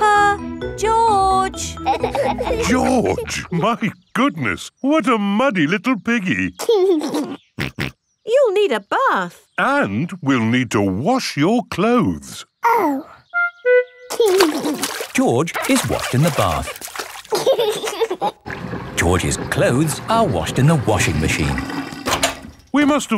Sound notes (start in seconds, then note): 6.6 giggles and snorts; 17.2 giggling